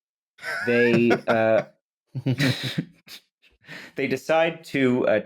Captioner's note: laughter